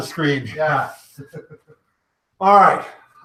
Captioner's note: chuckles